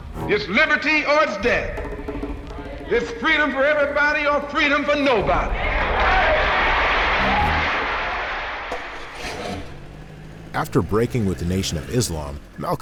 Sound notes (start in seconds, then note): 5.8 cheers